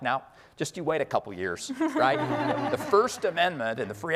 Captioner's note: audience laughing